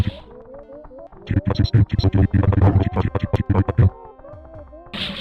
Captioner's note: nightmarishly bit-crushed voice lines